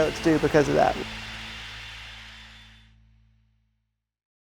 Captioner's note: white noise